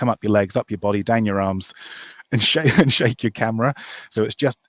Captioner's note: laughs